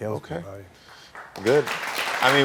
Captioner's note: audience clapping